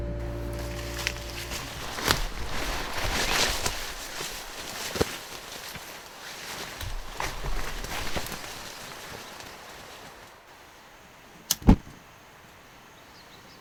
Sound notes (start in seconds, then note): 1.8 birds singing